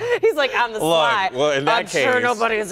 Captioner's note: laughter